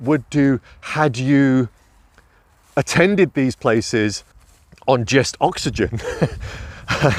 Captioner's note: laughs